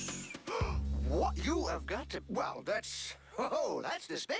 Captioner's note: gasps